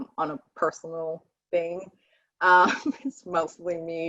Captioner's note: chuckling